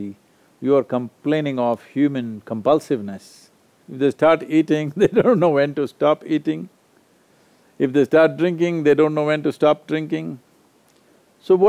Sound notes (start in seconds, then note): 5.0 laughs